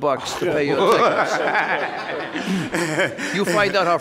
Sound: courtroom laughing

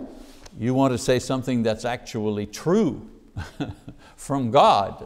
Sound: chuckles

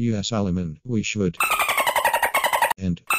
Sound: dolphin noises

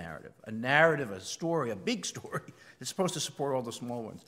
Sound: laugh

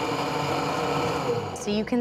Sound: blender stops

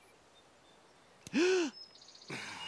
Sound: gasps

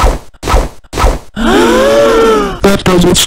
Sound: audience gasping

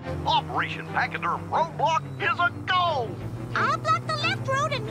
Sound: Goofy, on radio

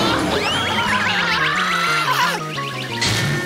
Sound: screaming

